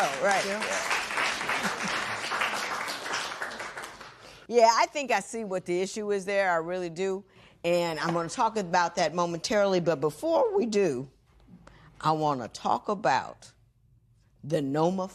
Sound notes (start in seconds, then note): 0.0 applause